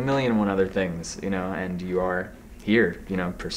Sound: none

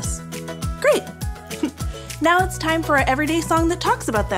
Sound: laugh

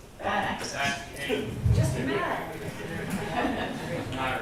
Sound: audience chatters

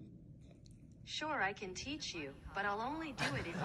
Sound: laughter

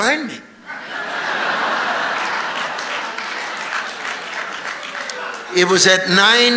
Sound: congregation laughing and applauding

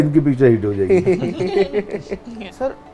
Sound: laughs

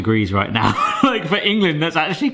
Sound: laughing

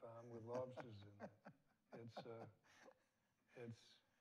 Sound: laughs

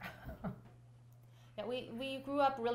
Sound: laughter

